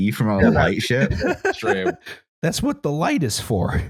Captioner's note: laughs